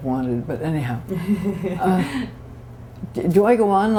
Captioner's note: laughter